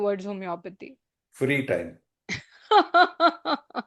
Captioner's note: laughter